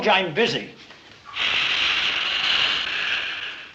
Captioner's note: sizzling, steaming